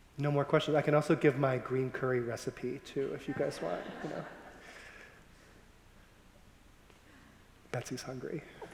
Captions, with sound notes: - No more questions? I can also give my green curry recipe too if you guys want. (audience laughing) Betsy's hungry.